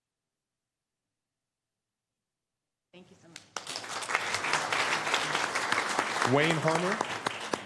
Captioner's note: applause